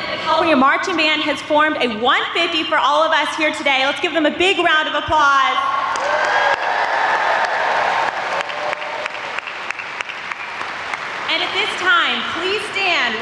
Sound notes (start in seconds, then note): 5.8 audience applauds